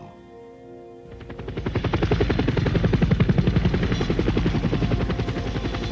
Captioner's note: sound of helicopter propellers